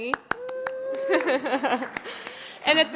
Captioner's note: applause and laughter